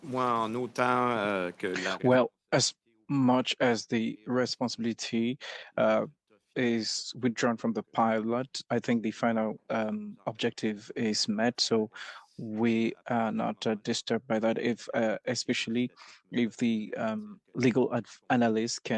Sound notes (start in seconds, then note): 9.1 speaking French